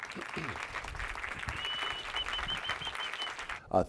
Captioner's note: applause